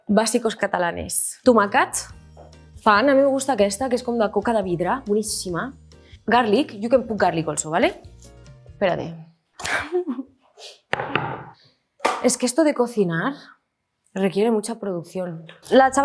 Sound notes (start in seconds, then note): 0.1 speaks in Spanish; 8.0 speaks in Spanish; 9.8 chuckles; 12.3 speaks in Spanish